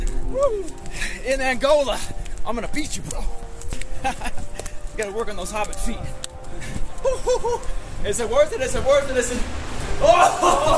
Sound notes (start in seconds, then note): 4.0 laughs; 10.0 both laugh